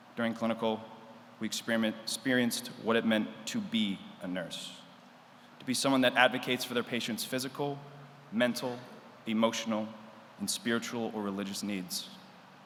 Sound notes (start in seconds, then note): none